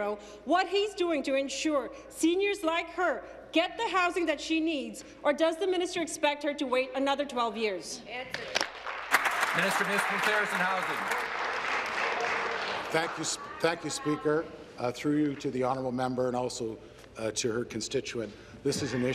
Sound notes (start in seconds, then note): 12.0 applause